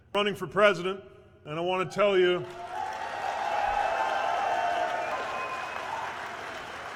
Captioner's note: cheers